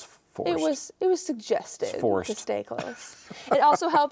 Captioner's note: laughing